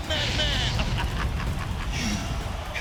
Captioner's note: Sid laughs